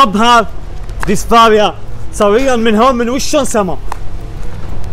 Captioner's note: speaking in Arabic